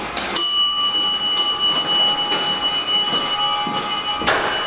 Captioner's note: dinging sound